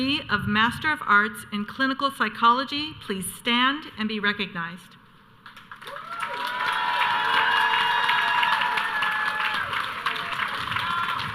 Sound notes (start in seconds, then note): 5.8 audience cheering